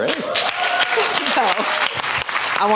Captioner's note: applause